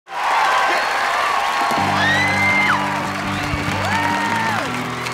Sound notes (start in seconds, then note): 0.0 cheering